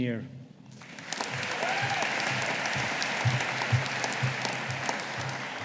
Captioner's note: audience applauding